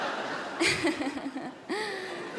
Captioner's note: giggles